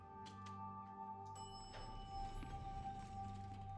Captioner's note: elevator pings